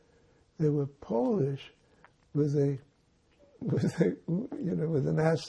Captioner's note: laughing